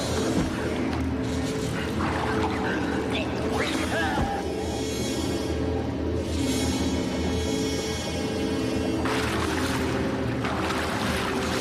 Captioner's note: coughing